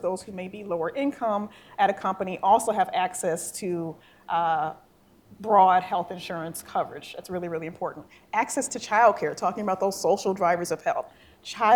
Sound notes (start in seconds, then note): none